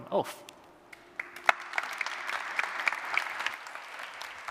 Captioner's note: applause